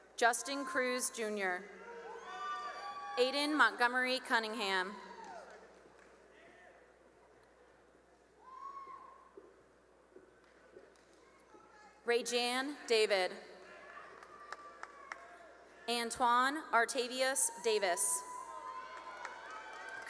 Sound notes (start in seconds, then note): 1.6 cheering; 6.6 cheering and applause; 13.6 cheering and applause; 17.3 cheering and applause